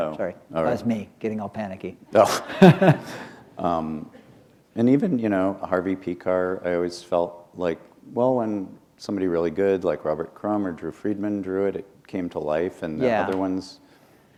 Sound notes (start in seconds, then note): 2.3 laughter